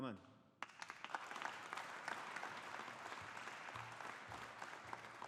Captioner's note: audience applauding